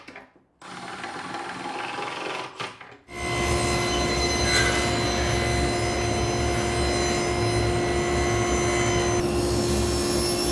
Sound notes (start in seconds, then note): 0.7 drill whirring